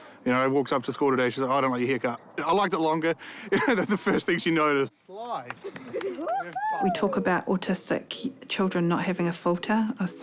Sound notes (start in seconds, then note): 5.6 laughs